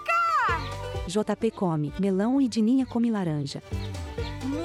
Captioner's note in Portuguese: Pássaros